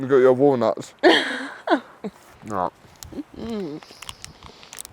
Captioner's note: laughs